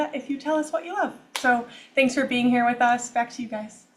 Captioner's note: claps